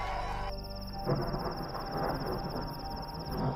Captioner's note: Clouds rumbling